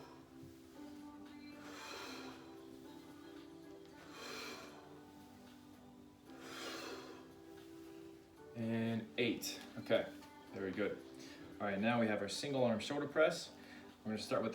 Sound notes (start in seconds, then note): 0.0 breaths heavily; 0.0 upbeat music; 0.0 breaths heavily; 0.3 upbeat music; 4.1 breaths heavily; 4.1 upbeat music; 7.9 breaths heavily; 7.9 upbeat music